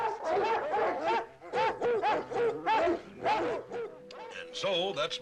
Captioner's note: barking continues